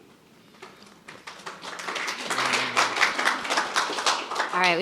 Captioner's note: audience applauds